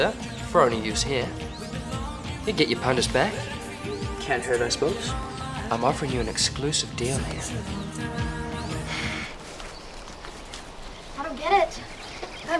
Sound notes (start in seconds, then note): 8.2 huffs